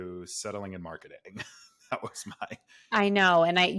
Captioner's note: laughs